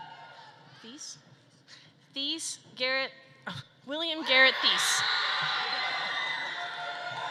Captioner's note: family loudly cheering